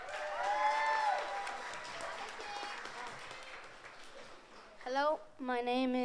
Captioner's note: audience applauds